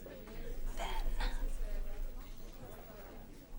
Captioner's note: whispers